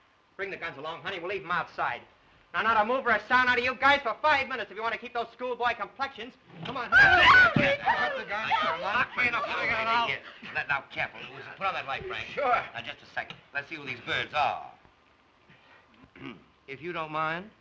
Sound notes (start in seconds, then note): 6.9 Nancy screams